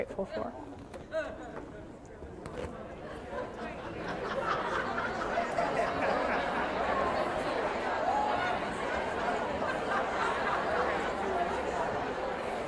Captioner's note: audience speaking, laughter